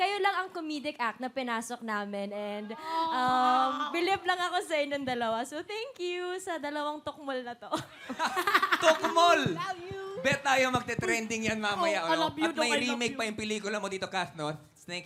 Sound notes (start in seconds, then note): 7.7 laughter; 8.1 chuckles